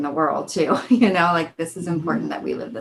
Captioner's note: chuckles